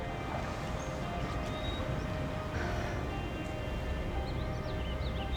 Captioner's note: birds chirping